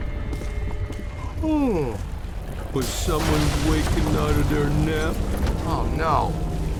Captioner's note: yawn